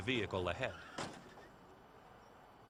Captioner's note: bangs